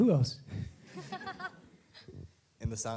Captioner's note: laughing